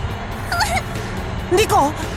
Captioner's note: wince